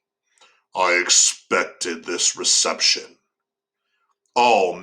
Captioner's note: deeper voice